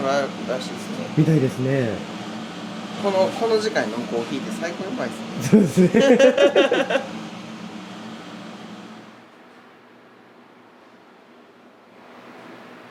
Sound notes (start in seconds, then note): 5.3 laugh